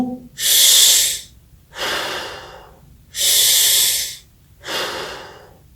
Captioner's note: abdominal breathing